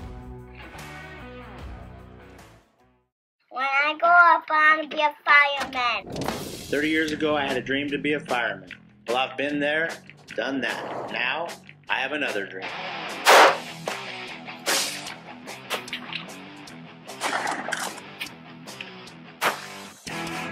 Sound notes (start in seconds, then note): 0.0 slow rock music; 13.2 gunshots; 19.4 gunshot; 19.4 arrow shot